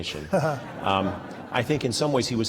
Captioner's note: laughter